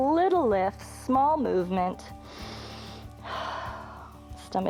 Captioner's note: inhales and exhales